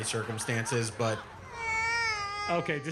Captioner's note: cries